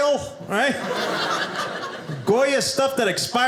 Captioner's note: audience laughing